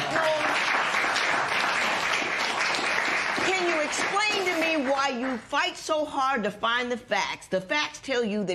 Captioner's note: applause